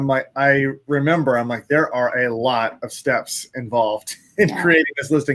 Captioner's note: laughs